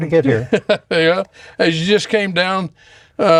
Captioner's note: laughs